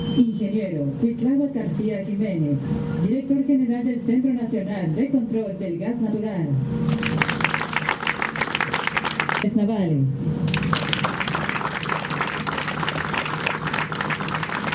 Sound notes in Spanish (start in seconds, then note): 10.9 aplausos